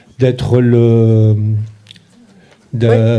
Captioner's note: speaking in French